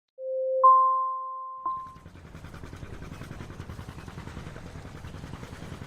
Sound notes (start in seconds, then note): 0.2 logo chiming; 1.8 engine sputtering